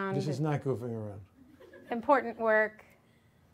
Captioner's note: audience laughs